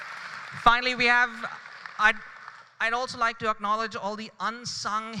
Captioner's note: applause